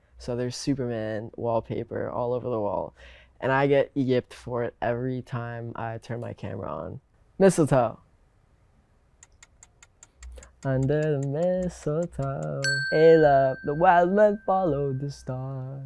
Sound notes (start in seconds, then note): 9.2 clock ticking